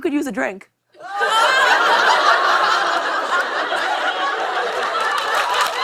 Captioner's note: laughter; cheers and applause